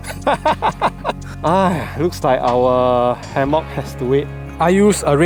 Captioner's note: sighs